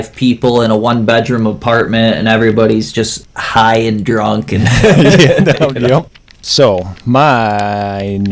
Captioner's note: laughs